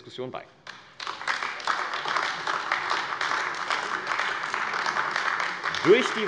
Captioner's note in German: Beifall AfD